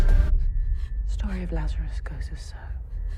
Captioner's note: sobbing